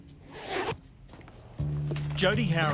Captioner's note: curious music; zip hissing